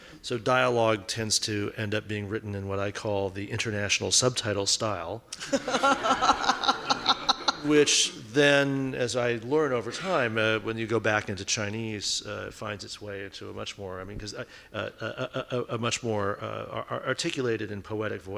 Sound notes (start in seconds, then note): 5.4 laughing